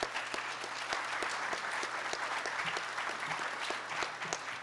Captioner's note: audience applauding